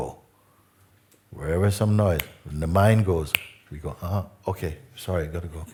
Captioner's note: click